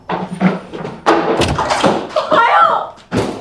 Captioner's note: door slams